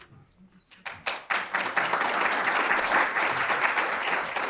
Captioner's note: audience applauding